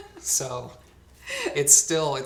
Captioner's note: laughs